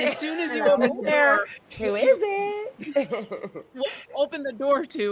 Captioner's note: person laughing